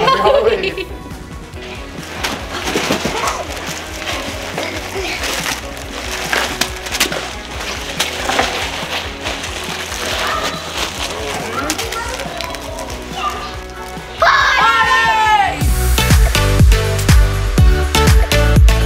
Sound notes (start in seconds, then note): 0.0 laughs; 2.2 bag crunches; 16.1 upbeat music